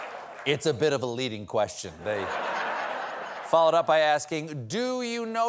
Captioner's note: laughter